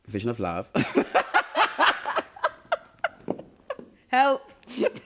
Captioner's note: laughter